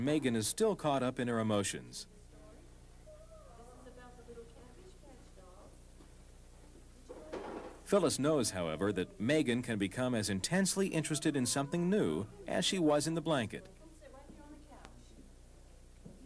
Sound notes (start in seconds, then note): 2.1 people talking